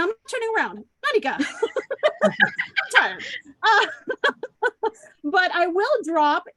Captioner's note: laughs